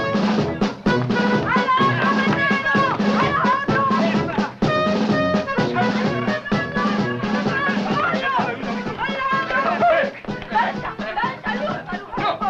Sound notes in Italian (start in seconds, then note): 1.0 grida confuse